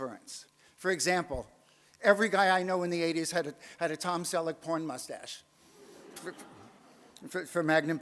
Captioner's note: audience laughs